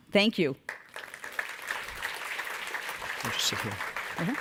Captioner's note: audiences applauds